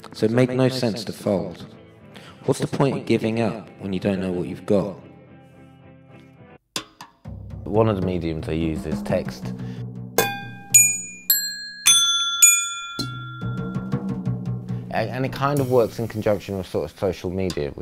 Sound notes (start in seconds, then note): 10.2 pinging sounds